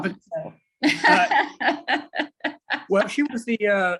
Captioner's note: laughs